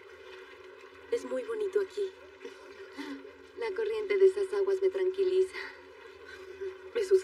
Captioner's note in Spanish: Ríe